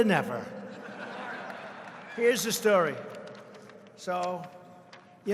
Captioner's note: laughter